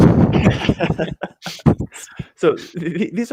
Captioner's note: both laughs